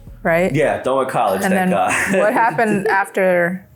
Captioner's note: laughs